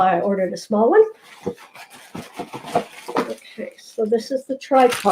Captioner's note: paper shuttering sound